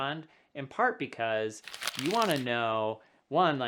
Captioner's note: paper rubbing